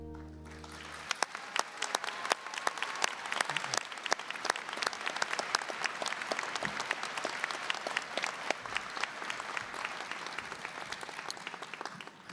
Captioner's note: applause